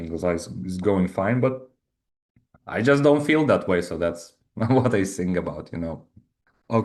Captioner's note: chuckles